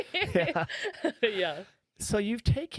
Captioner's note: laughing